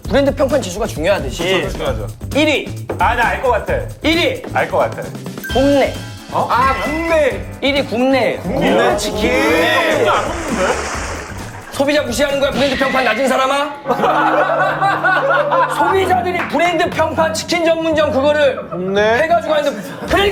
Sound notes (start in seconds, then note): 8.4 pouring cold water